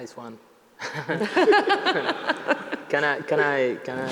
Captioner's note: chuckles